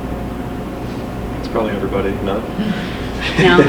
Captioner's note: laughs